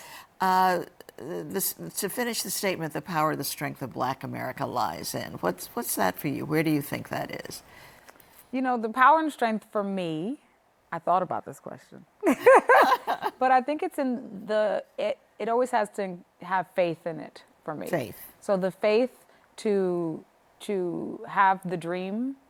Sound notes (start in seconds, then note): 12.2 laughter